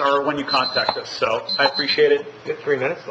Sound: alarm beeps

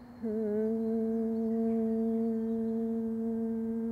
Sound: humming

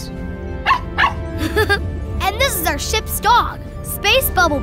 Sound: barking; chuckles

